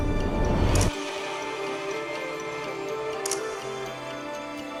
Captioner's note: shutter snaps